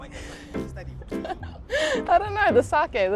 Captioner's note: laughs